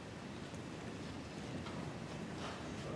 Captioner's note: speaking French